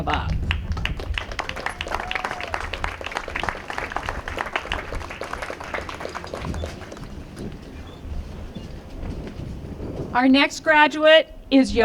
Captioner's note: applause